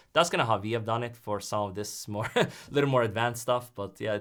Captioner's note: chuckles